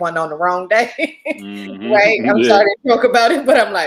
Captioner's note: laughs